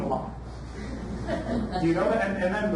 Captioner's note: audience laughs